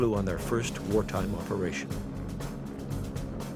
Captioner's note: plane propellers whirring